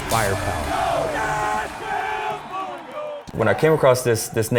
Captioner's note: chants